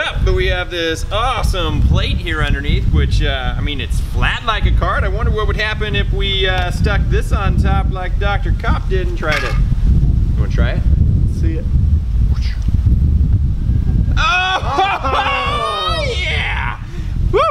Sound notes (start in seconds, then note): 12.1 whooshing